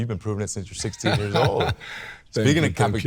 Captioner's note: laughs